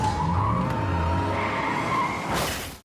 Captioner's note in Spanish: Estruendo